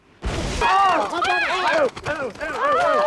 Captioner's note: all screaming